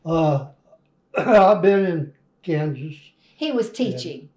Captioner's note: laughter